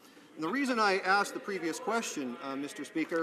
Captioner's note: some Applause